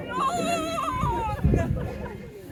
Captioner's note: shouting